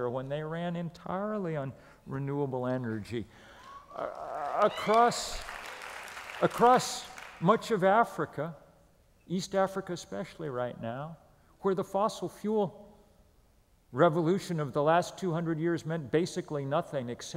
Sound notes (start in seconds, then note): 3.6 applause